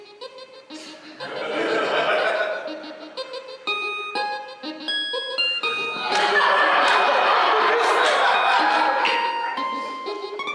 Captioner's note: laughter